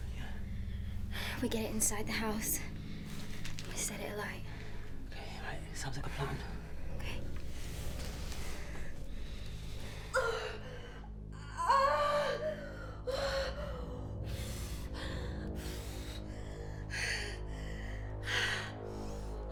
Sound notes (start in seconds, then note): 10.0 Belle crying and panting; 10.0 tense music